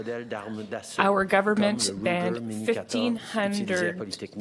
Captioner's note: speaking French